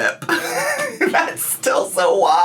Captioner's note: laughs